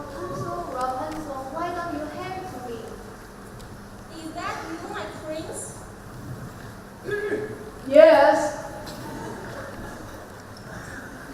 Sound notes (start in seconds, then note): 7.0 clears throat